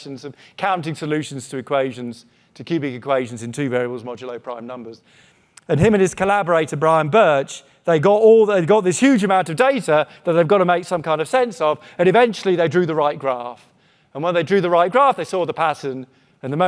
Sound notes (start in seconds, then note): none